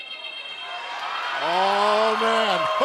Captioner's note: cheers and applause